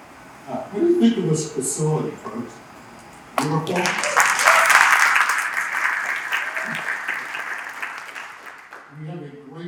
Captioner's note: applause